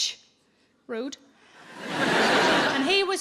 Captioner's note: audience laughs